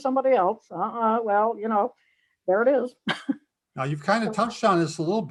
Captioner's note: laughs